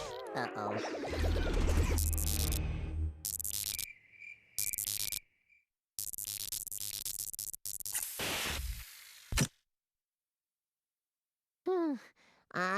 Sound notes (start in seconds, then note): 1.9 electronic buzzing; 11.4 sighing